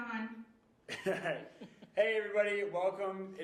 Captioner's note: chuckling